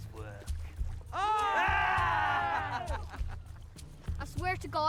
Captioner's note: men yell